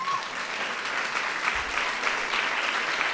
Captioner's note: applause